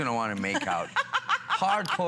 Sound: laughter

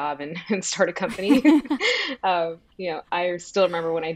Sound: both laugh

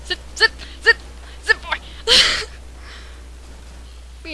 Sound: laughs

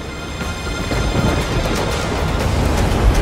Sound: thunder rumbling

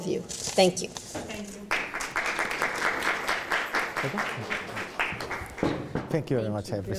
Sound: crowd applauding

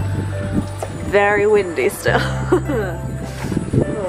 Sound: laughs

